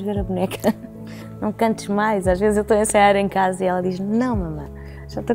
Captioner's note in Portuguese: risos